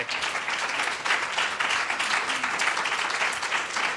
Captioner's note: applause